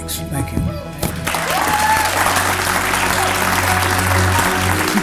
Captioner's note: applause